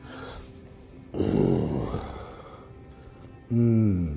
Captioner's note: groans